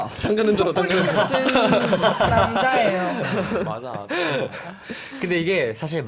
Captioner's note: tertawa